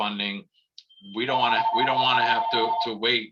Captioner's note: phone ringing